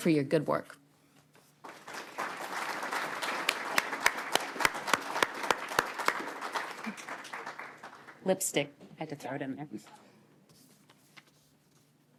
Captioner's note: applause